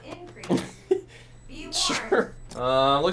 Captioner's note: laughs